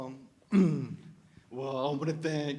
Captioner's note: clears throat